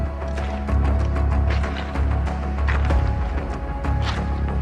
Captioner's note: edgy music continues; pebbles crunching